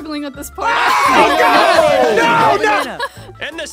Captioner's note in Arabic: المشاركون يصرخون